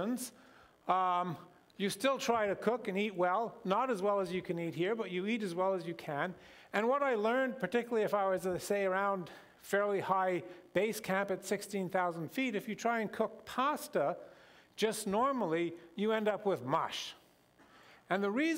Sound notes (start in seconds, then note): none